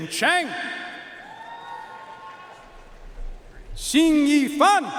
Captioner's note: audience cheering and applauding